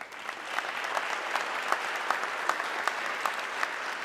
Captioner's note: audience clapping